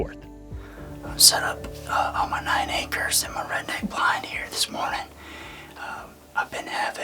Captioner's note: whispering